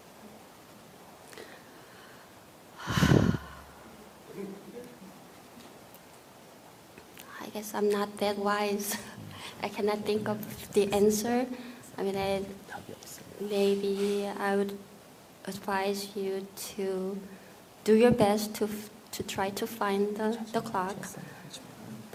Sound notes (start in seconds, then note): 2.8 questioner Sigh